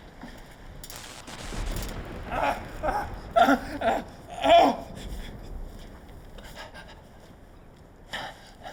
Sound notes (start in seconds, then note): 2.4 DeHart groaning